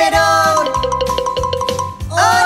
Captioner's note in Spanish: Sonido de campana